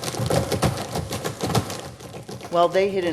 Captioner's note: sound of tap-dancing shoes on floor